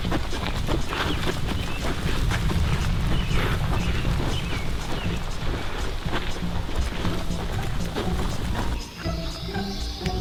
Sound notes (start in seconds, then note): 0.0 volcano rumbling; 4.3 birds chirping